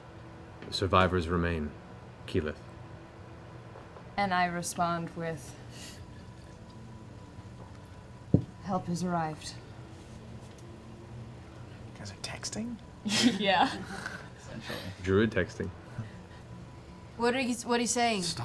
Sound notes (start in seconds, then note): 13.0 laughs